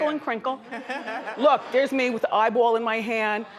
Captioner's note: audience laughs